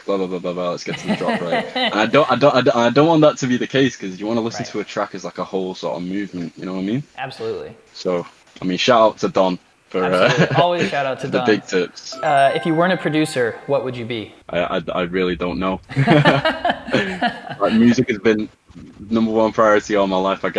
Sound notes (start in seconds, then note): 10.2 laughing; 15.9 both laughing